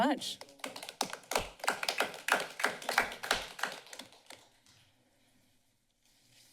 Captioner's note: applause